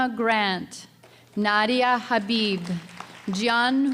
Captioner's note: audience applause